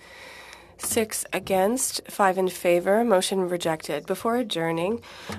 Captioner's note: speaking French